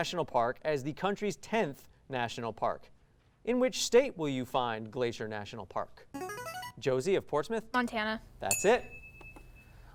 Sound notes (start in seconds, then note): 6.1 ring-in sound; 8.5 ding sound